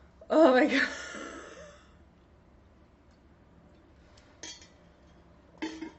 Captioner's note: sighs